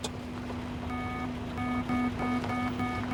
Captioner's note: beeping